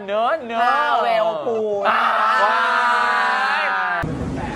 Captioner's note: rages